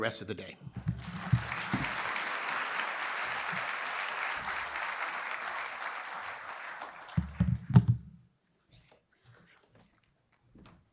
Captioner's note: applause